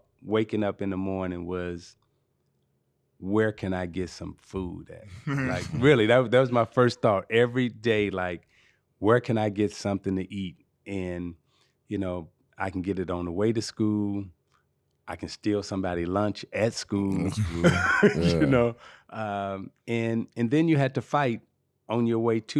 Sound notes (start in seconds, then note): 5.1 laughing; 17.1 laughing